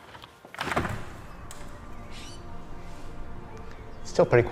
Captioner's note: door opening